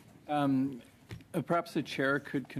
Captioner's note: conversation din